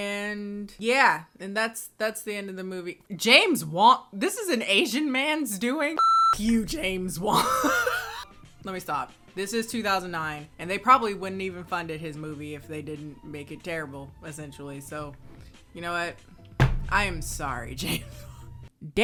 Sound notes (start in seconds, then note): 6.0 beeps; 17.8 laughs